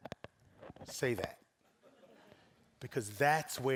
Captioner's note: audience laughing